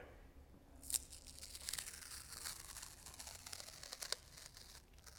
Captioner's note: tape unsealing